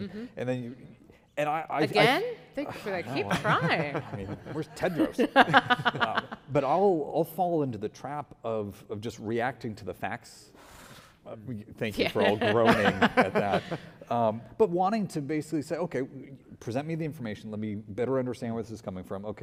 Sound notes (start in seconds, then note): 5.9 laughing